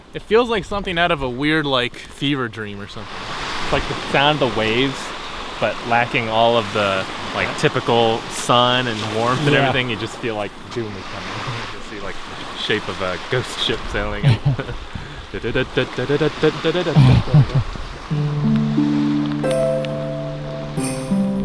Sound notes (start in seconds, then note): 15.4 vocalizes the theme song